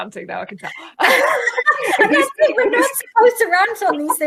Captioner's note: laughing